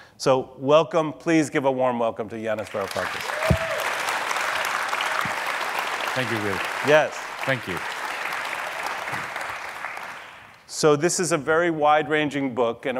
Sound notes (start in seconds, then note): 2.6 audience cheering and applauding